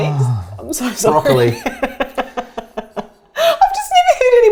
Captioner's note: laughs